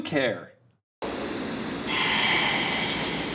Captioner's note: static rumbles